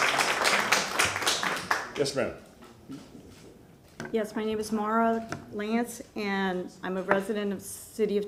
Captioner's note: applause